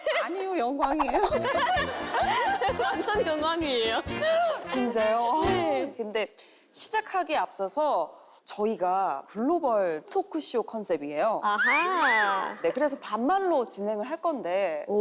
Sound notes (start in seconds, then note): 1.5 the global teacher sounds somewhat friendly